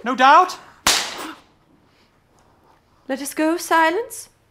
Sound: crack

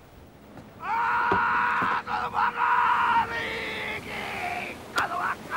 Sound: Te Ariki screaming

